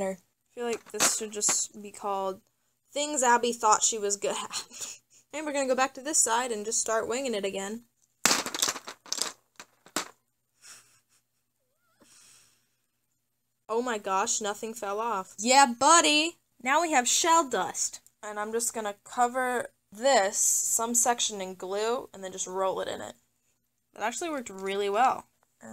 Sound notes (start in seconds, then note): 8.2 shells shattering; 10.1 whimpers